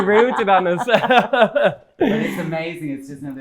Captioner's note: laughter